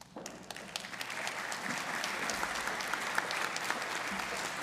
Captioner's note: audience applauding